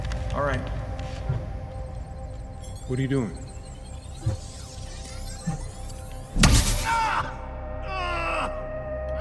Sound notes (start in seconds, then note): 2.5 digital keystrokes; 6.6 intense digital glitch